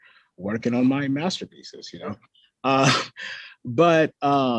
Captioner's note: chuckles